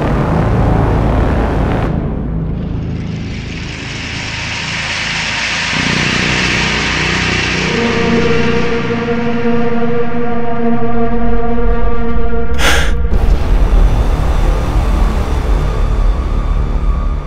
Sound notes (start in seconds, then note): 0.0 dramatic music; 12.5 man gasps